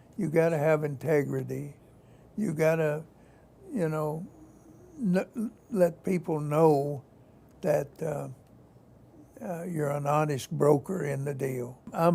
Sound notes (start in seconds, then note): 4.2 stammers